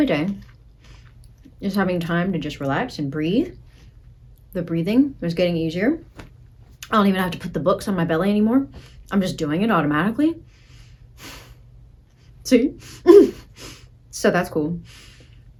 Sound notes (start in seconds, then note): 0.0 breathes; 13.0 breathes